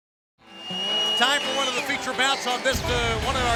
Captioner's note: crowd cheering